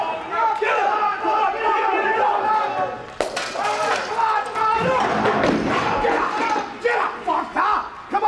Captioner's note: crowd chatter